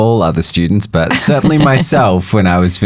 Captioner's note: chuckles